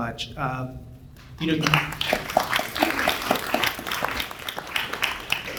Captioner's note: audience applauds